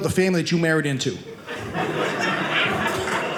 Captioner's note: audience laughing